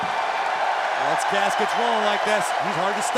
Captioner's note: cheers and applause